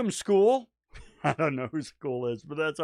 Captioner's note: chuckling